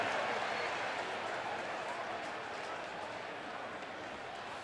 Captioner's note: chatter